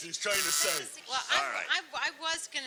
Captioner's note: buzzer